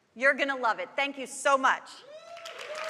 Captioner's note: applause